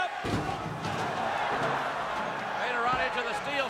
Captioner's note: crowd shouting